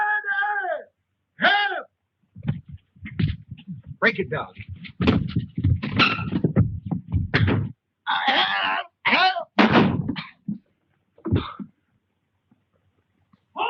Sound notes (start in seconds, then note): 8.1 grunting; 9.6 gun firing